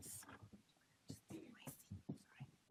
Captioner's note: whispers faintly